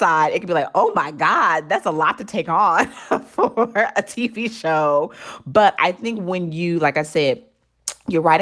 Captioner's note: laughter